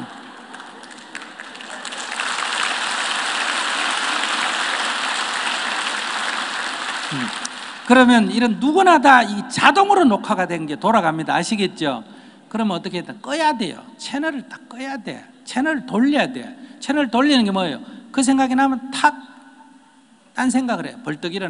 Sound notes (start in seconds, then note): 0.1 audience Laughter and Applause